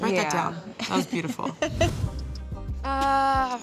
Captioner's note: laughs